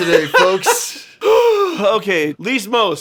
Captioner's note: exhales